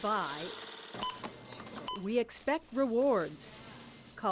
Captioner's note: scanner beeps